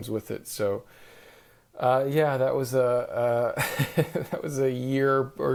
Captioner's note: chuckles